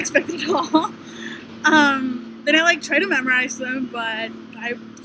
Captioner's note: laughter